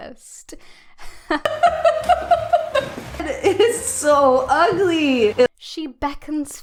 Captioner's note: laughing